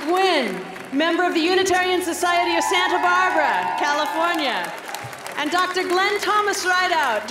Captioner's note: applause